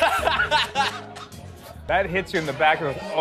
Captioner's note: laughter